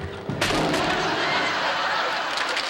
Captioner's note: laughter; applause